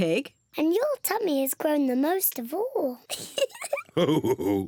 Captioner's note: laughs